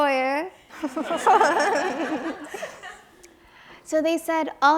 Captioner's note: audience laughs